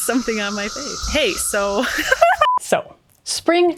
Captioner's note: giggles